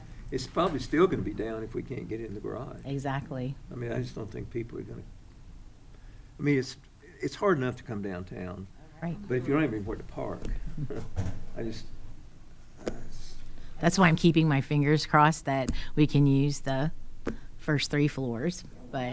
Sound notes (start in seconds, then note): 10.7 chuckles